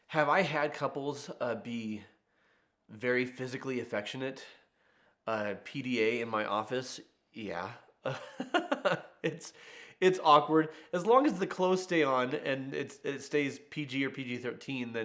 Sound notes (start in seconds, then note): 8.0 laughing